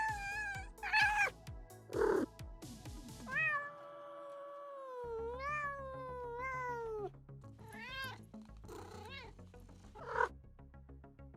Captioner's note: cat Noises